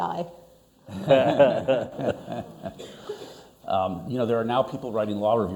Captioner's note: everyone laughing